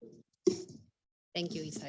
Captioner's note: mic thudding